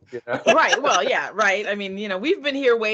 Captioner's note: laughing